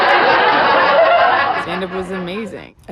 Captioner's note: audience laughs